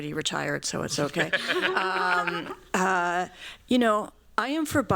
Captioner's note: laughter